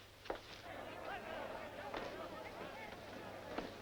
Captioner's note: crowd shouting